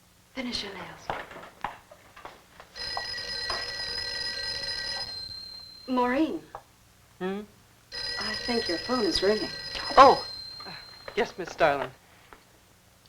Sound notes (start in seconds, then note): 2.7 phone ringing